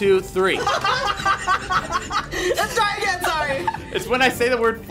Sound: laugh

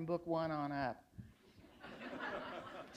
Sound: laughter

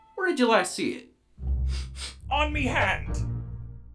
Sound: snif snif

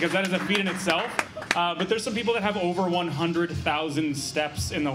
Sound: laughter

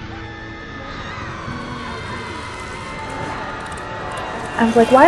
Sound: plane passengers screaming; "ALTITUDE, PULL UP" warning

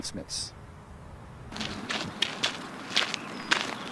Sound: shoes walking on gravel

